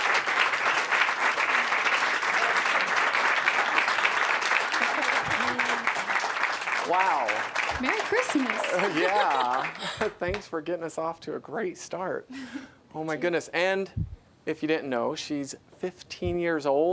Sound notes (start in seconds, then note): 1.3 applause